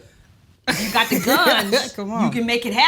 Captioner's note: Kellita laughs